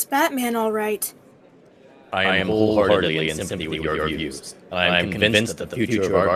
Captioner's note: loudspeaker